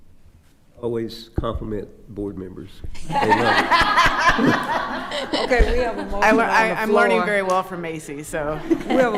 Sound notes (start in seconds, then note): 3.0 attendees laughing